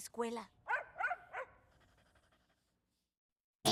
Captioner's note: barks